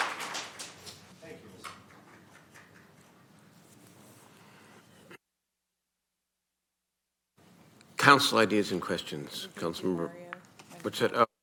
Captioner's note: some Applause